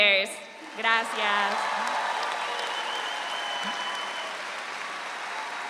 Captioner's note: audience applauds